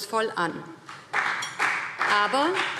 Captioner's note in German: Beifall BÜNDNIS 90/DIE GRÜNEN und CDU